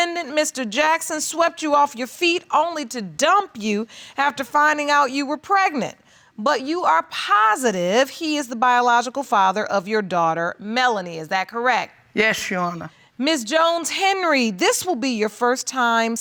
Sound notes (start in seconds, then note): none